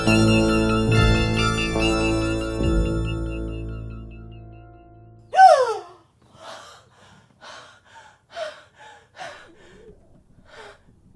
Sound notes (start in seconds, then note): 5.3 Caroline gasping